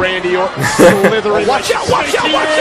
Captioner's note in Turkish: Gülüyor